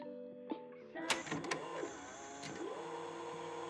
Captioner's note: tape whirring; button clicking